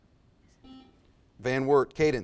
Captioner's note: buzzer buzzes